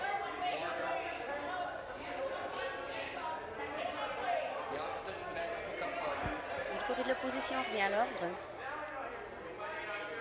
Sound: conversation din

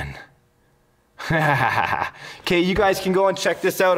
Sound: pleased laughter

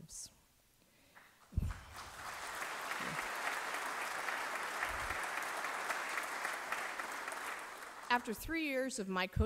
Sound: applause

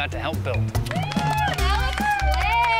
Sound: cheering

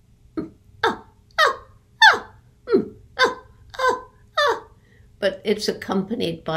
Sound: Jane mimicking chimpanzee hooting

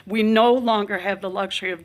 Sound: none

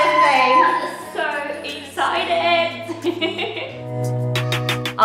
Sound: giggles

